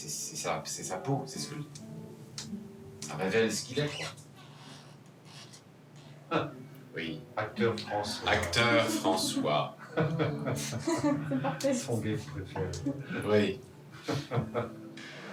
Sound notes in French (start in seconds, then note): 9.8 rires